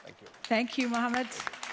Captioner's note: audience applauds